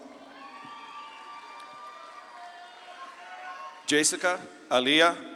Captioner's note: audience claps and cheers